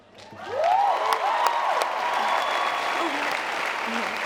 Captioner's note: applause